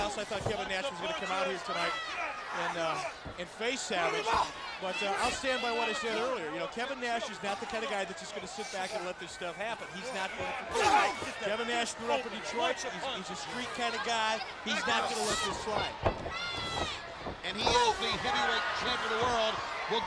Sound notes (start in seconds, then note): 10.6 wrestlers grunting